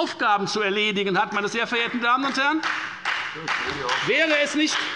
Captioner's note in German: Beifall bei der FDP